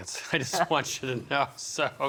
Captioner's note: laughing